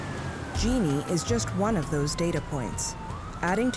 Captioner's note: siren blaring